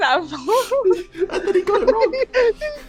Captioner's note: laughter